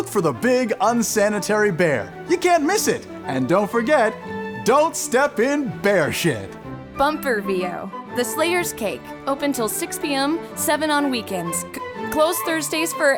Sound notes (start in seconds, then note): none